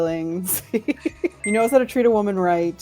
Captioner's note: laughs